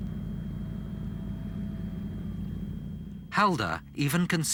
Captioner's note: engines rumbling